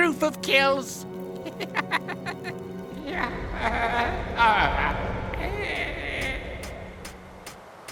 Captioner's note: Gaylord_Steambath laughs evilly